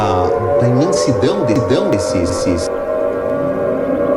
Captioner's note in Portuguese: Sirenes soando